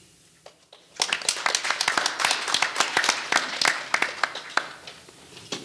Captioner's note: audience applauding